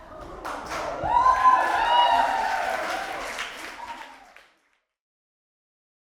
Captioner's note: participants cheer and applaud